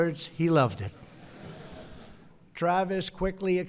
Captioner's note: laughter